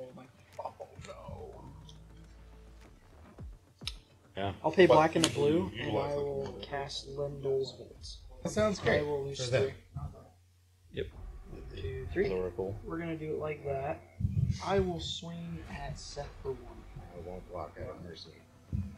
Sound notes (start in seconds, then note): 1.9 sarcastically? distraught